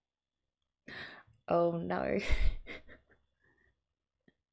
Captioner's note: gasp